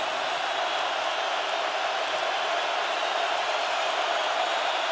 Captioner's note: crowd roaring